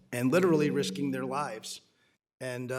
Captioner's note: microphone feedback